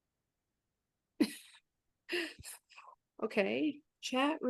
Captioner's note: chuckles